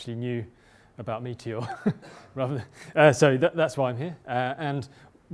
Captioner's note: laugh